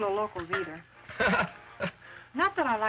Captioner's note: Ramon chuckles